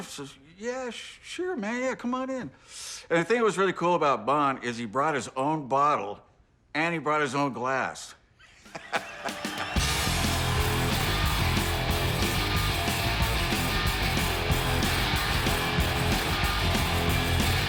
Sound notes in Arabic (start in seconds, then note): 8.4 يضحك; 11.5 موسيقى روك مكثفة